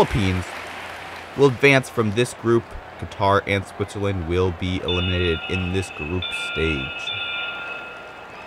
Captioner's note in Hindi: तालियां